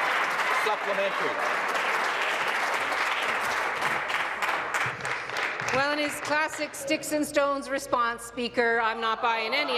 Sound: applause

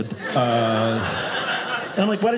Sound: audience laughing

